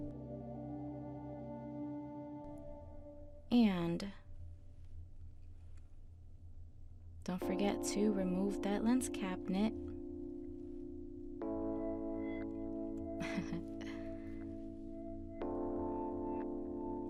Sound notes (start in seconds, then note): 13.2 chuckles; 14.3 ambient music